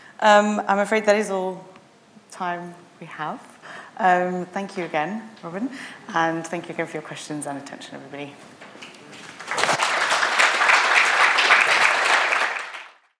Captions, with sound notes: - I'm afraid that is all time we have. Thank you again, Robin. And thank you again for your questions and attention, everybody. (audience clapping)